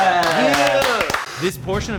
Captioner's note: movers clapping